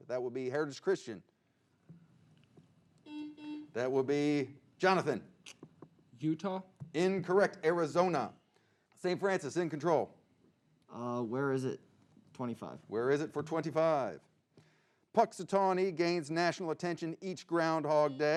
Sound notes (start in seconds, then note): 3.0 buzzing